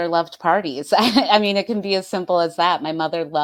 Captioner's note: chuckles